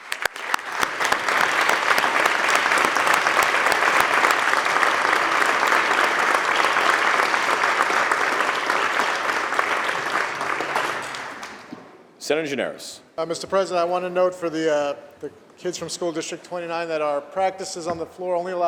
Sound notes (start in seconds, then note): 5.2 applause